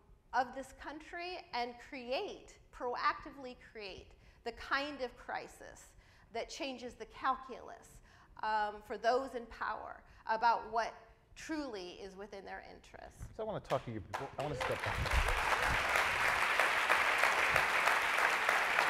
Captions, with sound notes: of this country and create, proactively create, the kind of crisis that changes the calculus for those in power about what truly is within their interests. - I wanna talk to you before, I wanna step back-- (audience applauds)